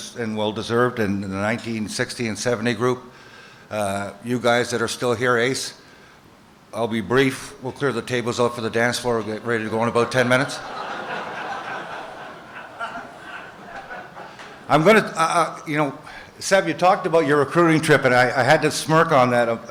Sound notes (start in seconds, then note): 10.0 laughter